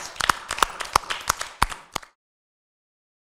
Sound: applauding

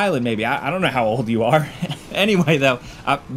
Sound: chuckling

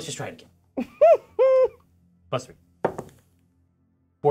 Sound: co-hosts laughing

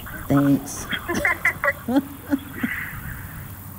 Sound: laughing

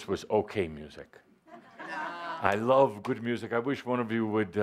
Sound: laughter

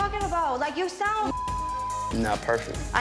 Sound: beep

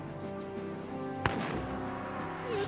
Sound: gun shot

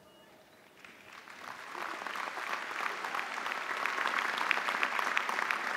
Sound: audience applauding

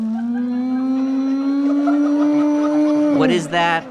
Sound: loud animal noise

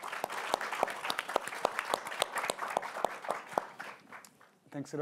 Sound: applause

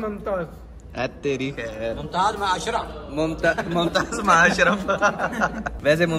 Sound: laughs

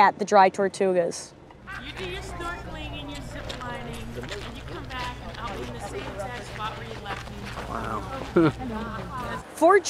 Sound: visitor chatter

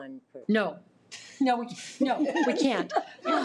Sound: all laughs; women chatting indistinctly

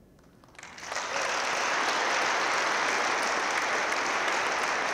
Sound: audience claps

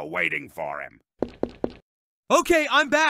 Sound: footsteps

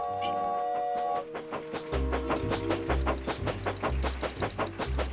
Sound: SFX: Train whistle

